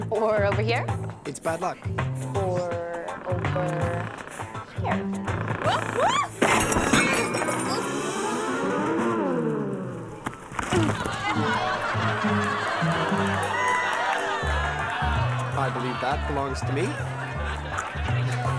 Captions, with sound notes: - Or over here. - It's bad luck. - Or over here. (hollers) (chair and dishes crash) (dramatic music) (crowd laughs) - I believe that belongs to me.